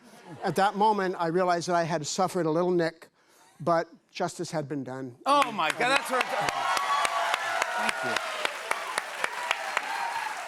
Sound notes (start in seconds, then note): 5.4 cheers and applause